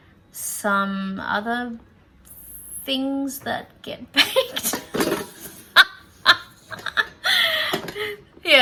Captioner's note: cracks up laughing at self